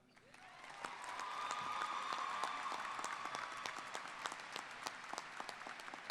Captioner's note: applause